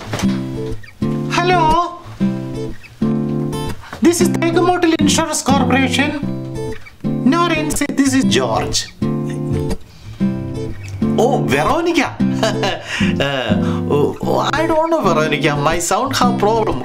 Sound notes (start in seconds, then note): 1.0 in high-pitched voice; 7.0 voice changes; 9.0 gulps; 12.4 faint laugh